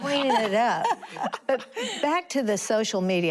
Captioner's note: laughter